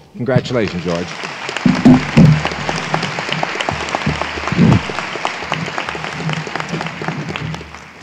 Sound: applause

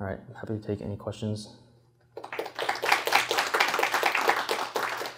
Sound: applause

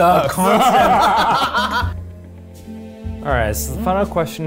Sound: laughing

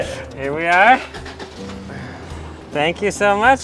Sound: car engine starts

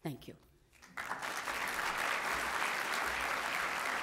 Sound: applause

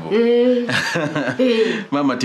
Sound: chuckles

